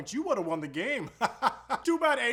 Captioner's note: laughing